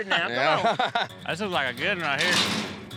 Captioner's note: laughter